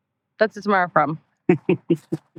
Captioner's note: laughing